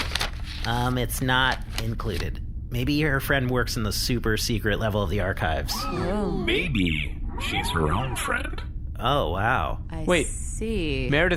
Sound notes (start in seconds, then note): 0.0 flipping through letter